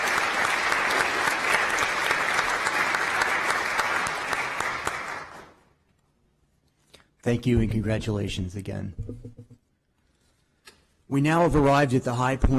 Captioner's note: applause